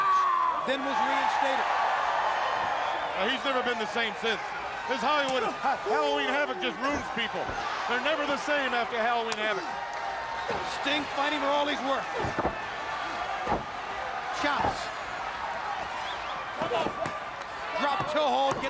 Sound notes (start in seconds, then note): 3.7 crowd cheering